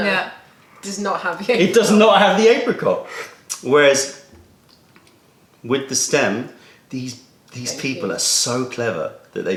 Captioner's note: sips tea